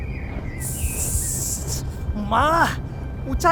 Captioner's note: hissss